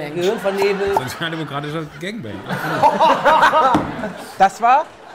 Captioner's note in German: Gelächter